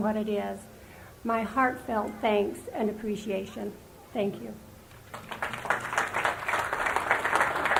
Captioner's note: applause